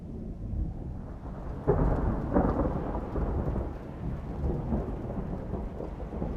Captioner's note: thunder getting louder